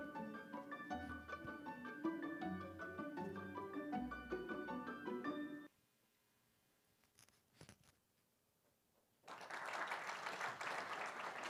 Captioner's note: applause